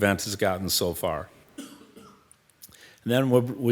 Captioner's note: member coughing